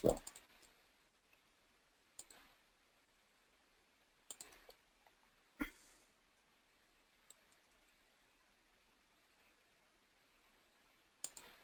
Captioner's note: pause